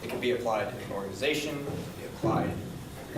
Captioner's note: none